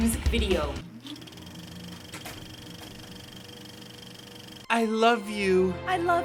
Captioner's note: sound of film reel